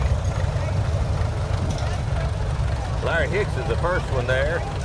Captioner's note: revving continues